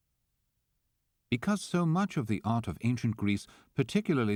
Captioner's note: voiceover